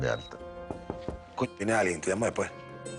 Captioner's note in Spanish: Toques en la puerta